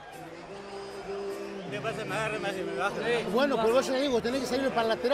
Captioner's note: speaking Spanish